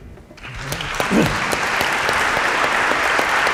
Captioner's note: applause